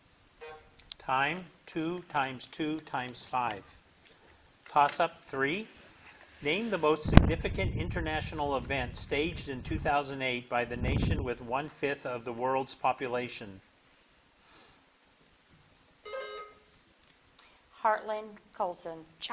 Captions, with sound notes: (buzzer blips) Time, two times two times five. Toss up three. Name the most significant international event. staged in 2008 by the nation with one fifth of the world's population. (buzzer dings) - Heartland Colson.